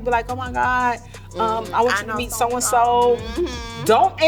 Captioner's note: laughs